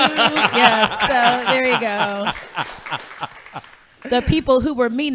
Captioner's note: laughing